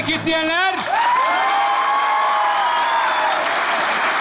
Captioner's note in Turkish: Alkış ve ıslık sesleri